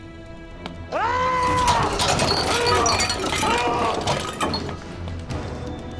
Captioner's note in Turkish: Bağırma sesi